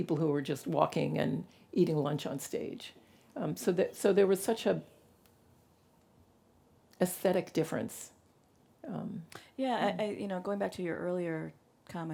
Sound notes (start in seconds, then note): none